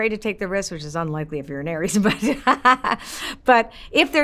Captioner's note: laughs